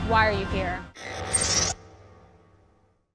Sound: mechanical sfx

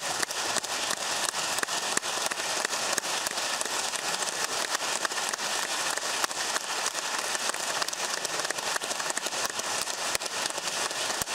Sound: applause

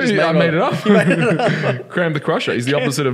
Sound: laughing

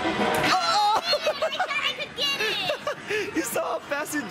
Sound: laughs

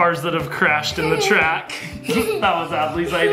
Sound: laughs

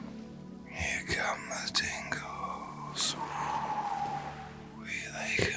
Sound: blows

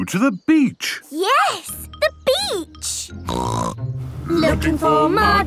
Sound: snorting

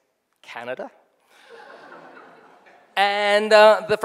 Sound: people laughing

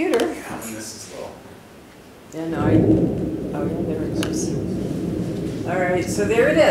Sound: bomb Explosion

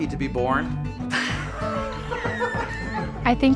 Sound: laughter

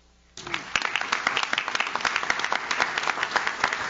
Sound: audience claps

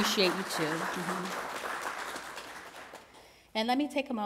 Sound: applause

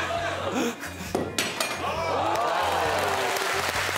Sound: laughter

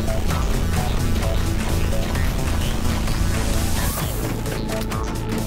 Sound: footsteps clacking

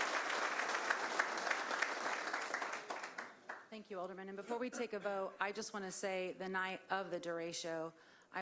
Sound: applause

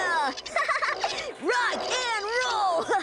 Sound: both laughing

